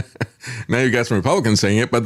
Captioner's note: laughs